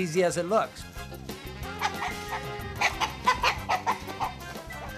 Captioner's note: chickens clucking